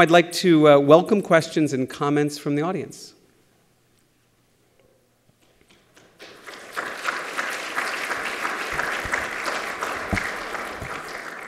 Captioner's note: applause